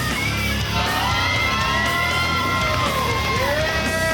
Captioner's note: cheering